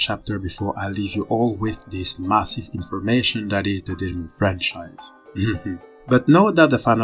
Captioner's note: laughs